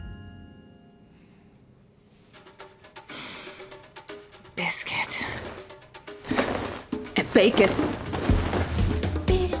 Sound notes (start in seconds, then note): 2.8 sniffing